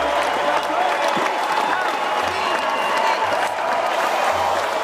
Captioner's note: applause; cheering